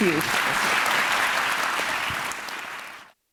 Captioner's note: applause